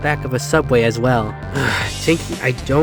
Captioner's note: sighs